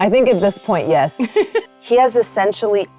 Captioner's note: Mayanna laughing